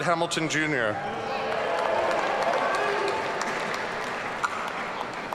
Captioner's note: audience cheering